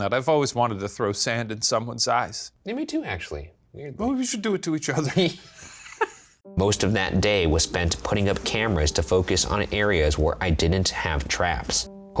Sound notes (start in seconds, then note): 5.1 both laughing